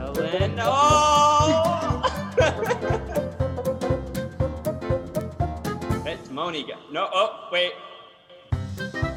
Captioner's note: chuckles